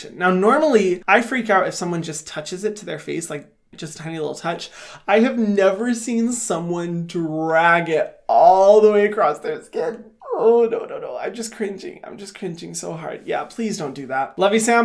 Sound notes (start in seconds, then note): none